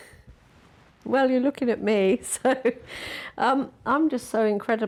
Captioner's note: laughs